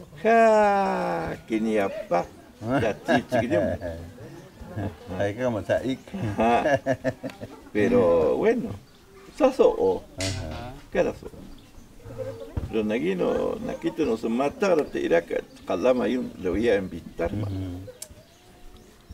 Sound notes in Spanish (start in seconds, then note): 6.1 risas